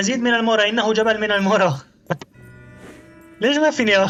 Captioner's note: footsteps